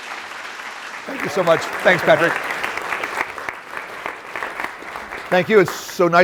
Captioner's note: applause